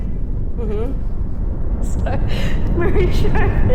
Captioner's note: laughter